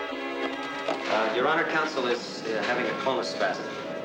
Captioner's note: applause